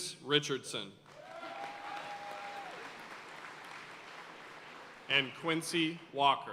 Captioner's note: audience cheering and applauding